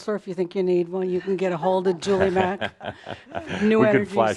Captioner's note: chuckles